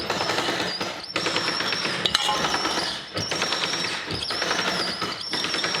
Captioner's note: wheel squeaks violently